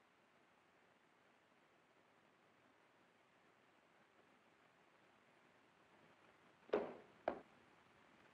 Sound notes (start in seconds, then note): 6.7 thump